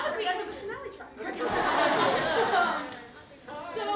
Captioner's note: laughter